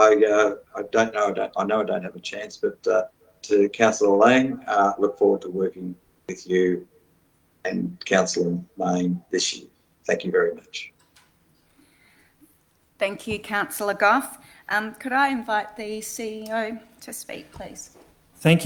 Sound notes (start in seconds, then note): none